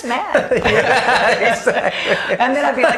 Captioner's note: laughing